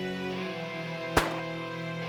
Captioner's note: gun shot